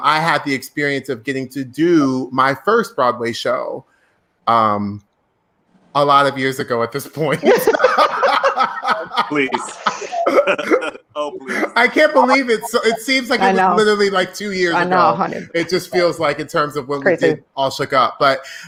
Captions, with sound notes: I had the experience of getting to do my first Broadway show, a lot of years ago at this point. (laughing loudly) - Please. Oh please. - I can't believe it! It seems like literally like two years ago. - I know, honey. - It just feels like in terms of when we did "All Shook Up".